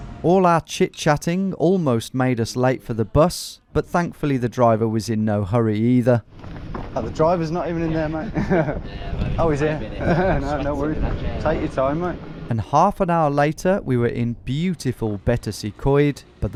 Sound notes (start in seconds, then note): 9.9 chuckles